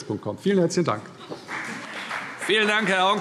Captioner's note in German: Beifall CDU und BÜNDNIS 90/DIE GRÜNEN